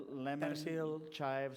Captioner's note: non-english